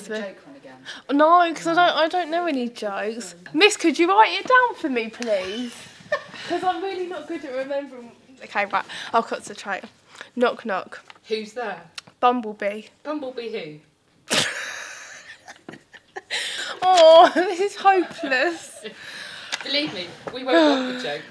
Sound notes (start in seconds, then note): 14.3 laughs